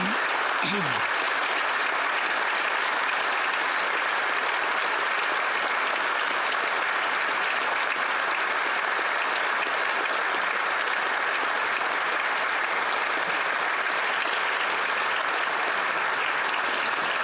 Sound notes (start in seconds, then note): 2.0 applause